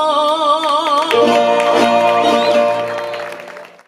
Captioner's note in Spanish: gritos y aplausos